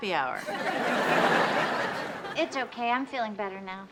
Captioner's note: audience laughs